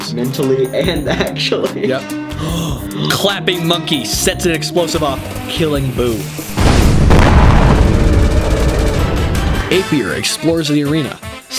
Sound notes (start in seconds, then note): 0.3 while laughing; 2.3 both gasp